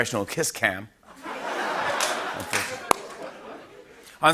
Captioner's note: laughter